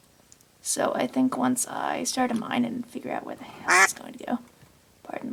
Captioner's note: duck quack